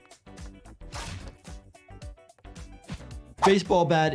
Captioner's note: bat thumps